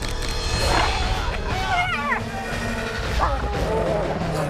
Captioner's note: screaming